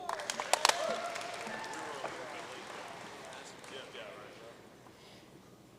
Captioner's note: audience cheering and applauding